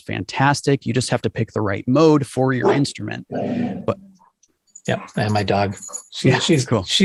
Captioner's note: grrr